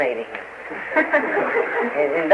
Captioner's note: laughter